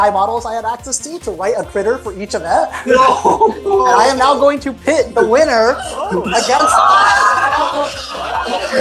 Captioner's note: audience gasps